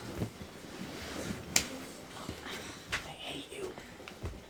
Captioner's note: slapping; sighing